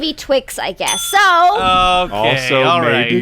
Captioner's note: excited; bell dings